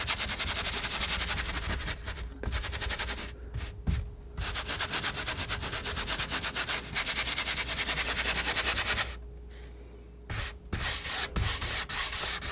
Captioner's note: scratching